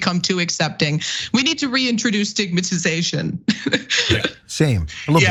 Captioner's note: laugh